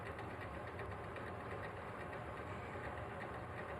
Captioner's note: mixer whirring